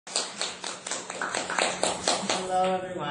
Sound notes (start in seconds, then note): 0.0 clapping